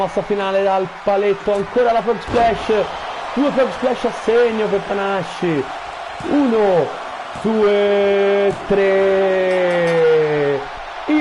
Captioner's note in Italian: Applauso